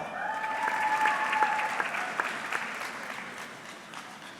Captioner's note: audience clapping